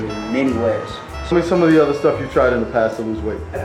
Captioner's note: voiceover